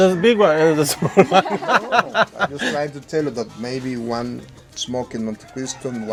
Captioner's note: laughter